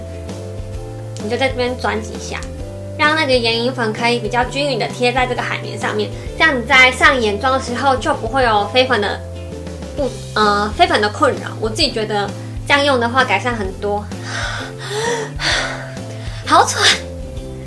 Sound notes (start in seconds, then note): 14.2 deep breath; 14.2 sigh